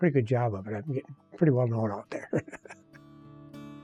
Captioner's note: laughs